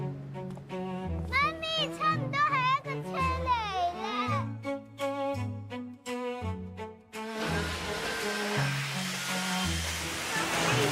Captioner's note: Cantonese: 妈咪，差不多系一个车嚟喇